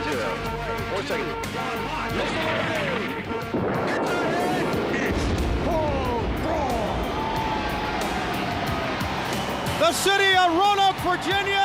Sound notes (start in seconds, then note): 8.6 crowd cheering